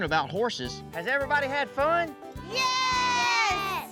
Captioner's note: none